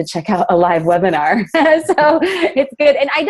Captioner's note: laughs